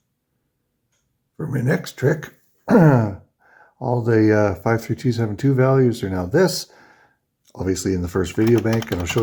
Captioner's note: clears throat